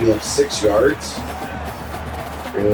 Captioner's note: crowd Noises